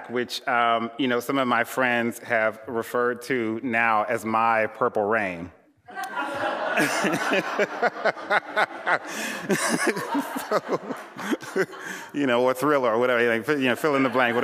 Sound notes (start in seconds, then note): 5.9 laughter